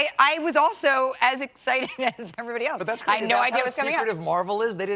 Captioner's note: laughter